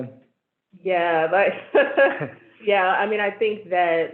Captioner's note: laughs